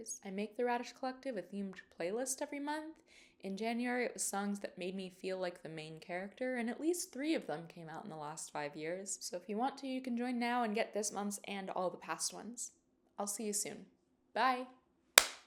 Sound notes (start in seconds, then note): 15.2 clap